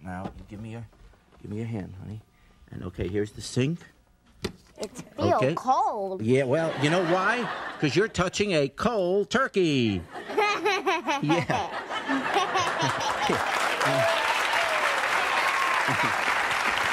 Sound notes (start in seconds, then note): 10.2 laughing; 12.2 audience applauding